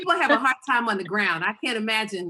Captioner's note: laughing